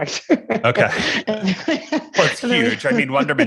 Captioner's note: chuckling